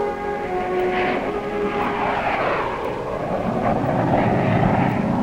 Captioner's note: plane engine humming